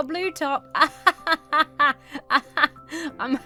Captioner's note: laughs sarcastically